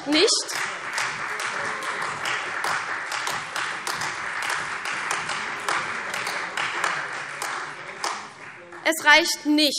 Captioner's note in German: Beifall CDU, AfD und Freie Demokraten